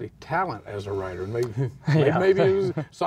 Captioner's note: laughing